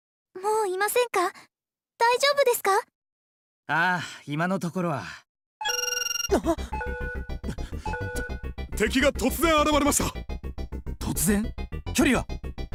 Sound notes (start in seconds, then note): 5.0 gasp